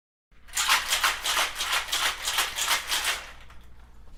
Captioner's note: hand shaking drink